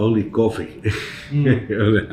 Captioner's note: chuckles